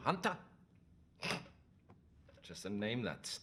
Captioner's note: snorts